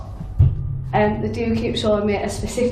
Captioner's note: thudding sound